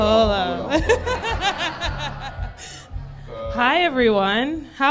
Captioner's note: crowd laughs; laughs